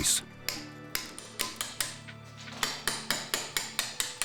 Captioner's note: hammers tapping